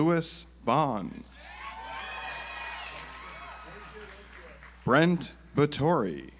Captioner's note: audience applauds